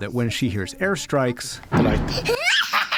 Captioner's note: laughter